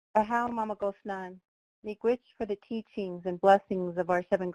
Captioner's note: speaking foreign language